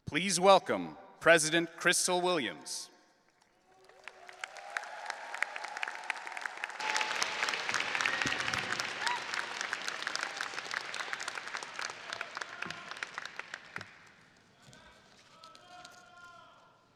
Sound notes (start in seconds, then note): 4.2 audience applauding and cheering